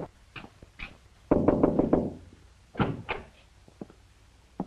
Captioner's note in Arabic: يطرق